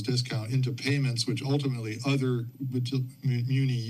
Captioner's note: none